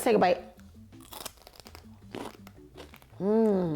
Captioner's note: celery crunches